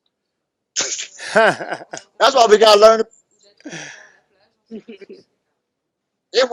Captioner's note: laughs